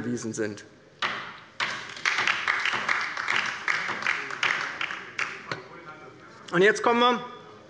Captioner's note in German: Beifall bei der LINKEN